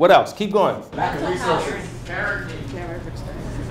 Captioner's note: audience shouting out answers